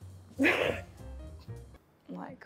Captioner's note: laughs